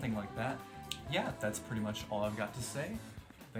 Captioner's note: lip smack